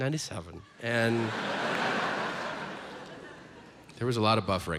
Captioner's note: audience laughs